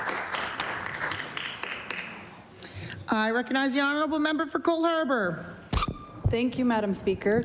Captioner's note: applause